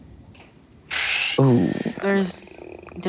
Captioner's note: air blows through lips